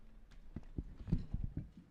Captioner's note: none